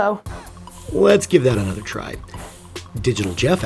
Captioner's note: voiceover